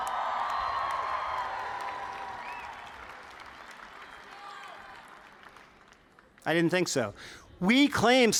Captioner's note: cheers